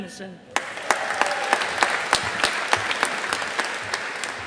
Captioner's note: audience applauding